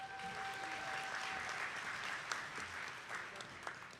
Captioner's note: attendees clapping